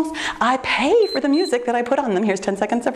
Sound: timer beeps

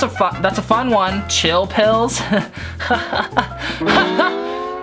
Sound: chuckling

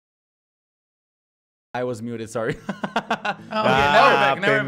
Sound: laughs

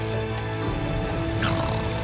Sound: snoring

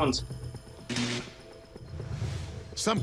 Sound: crackling

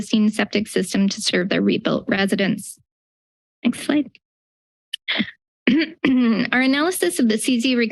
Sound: clears throat

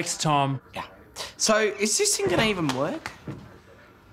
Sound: door swinging

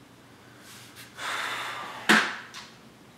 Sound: sigh

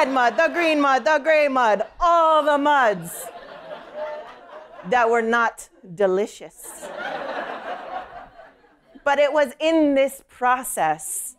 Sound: laughter

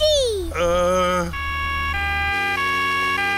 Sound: siren wailing

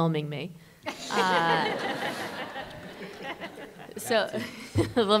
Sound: laughter

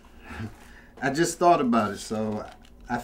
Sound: chuckles

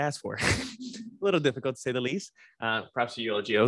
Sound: laughs

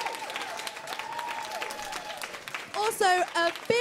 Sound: applause

